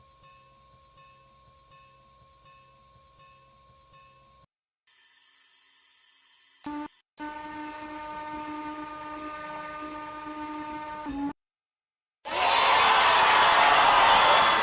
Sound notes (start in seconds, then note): 7.2 train Whistles one final time; 12.2 crowd cheers in response